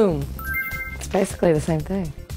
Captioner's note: chime